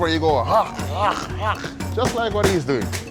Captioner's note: growling